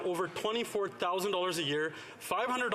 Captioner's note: none